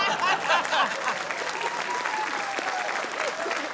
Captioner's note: laughter; cheering, applause